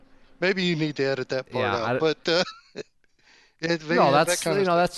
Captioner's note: laughs